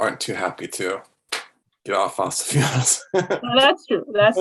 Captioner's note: laughs